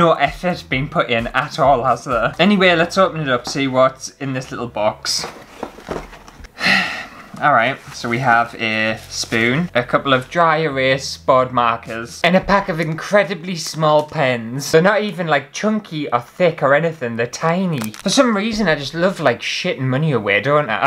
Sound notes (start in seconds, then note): 6.5 sigh